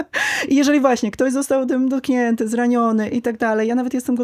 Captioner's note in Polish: wciągnięcie powietrza